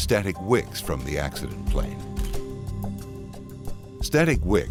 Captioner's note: camera clicking